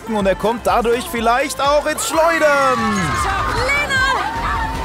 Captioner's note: Rufe, Jubel